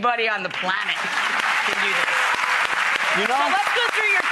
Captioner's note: applause